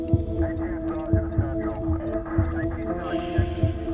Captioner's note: blinker clicking; suspenseful music